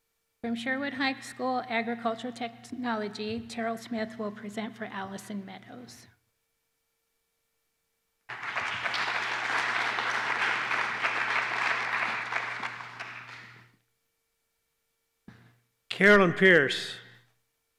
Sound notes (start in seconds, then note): 8.3 applause